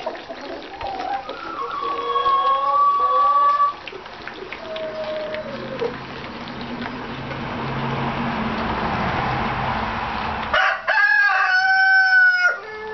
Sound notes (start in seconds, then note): 0.0 clucking; 4.8 engine noise; 10.5 crowing